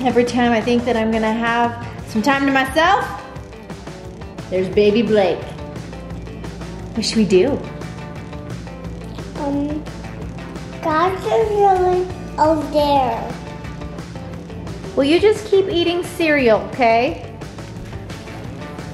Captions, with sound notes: Every time I think that I'm gonna have some time to myself, there's baby Blake. (upbeat music) What should we do? - Um, (babbling) over there. - What? Well, you just keep eating cereal, okay?